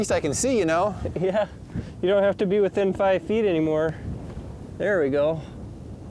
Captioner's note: laughs